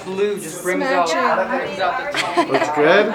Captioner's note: laughing